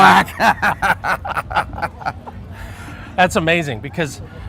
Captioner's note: laughter